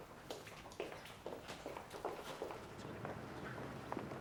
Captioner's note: footsteps departing